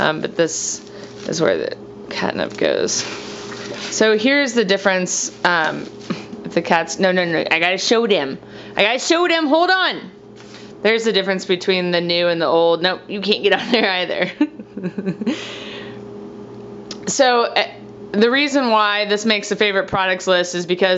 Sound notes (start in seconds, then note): 14.2 laughs